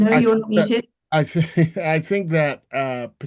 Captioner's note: he laughs